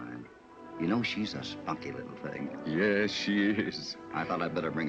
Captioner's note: chuckling